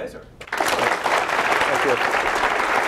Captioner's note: applause